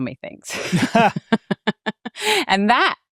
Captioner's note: chuckles